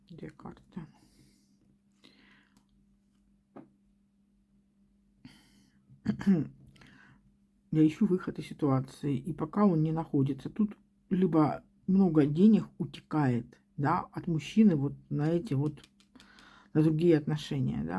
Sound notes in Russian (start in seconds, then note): 6.0 откашливается